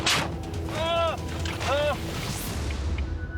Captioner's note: car bangs